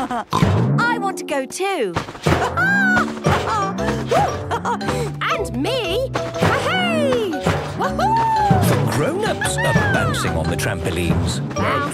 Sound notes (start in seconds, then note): 2.4 laughs